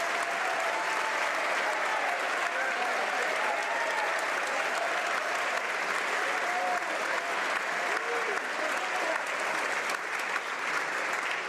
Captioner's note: applause